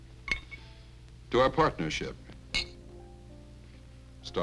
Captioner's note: glasses clinking